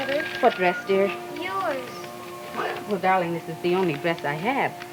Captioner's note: Lydia bawling